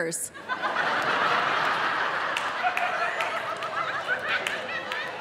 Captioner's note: audience laughing